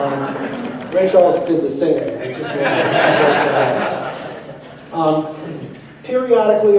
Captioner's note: laughter; laughter